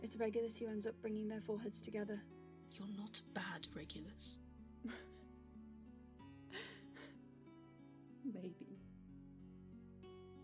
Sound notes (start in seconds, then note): 4.8 Regulus lets out a dry laugh